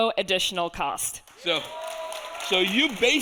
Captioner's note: audience applauding